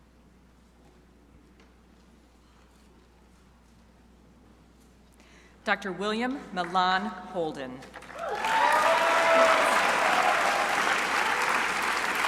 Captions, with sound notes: Dr. William Milan Holden. (crowd applauding)